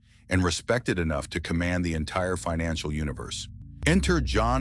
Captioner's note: SFX: deep cinematic bass drop